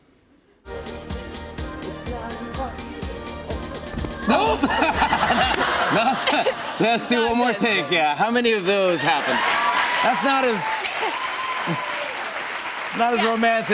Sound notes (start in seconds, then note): 4.2 laughs